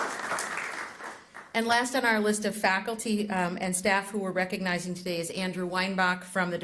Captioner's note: applause